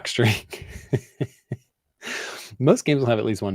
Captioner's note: laughs